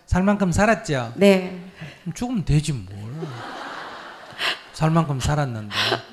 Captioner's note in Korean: 청중/질문자 웃음